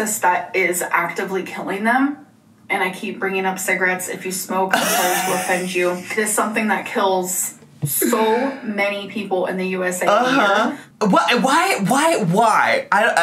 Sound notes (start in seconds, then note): 4.7 laughing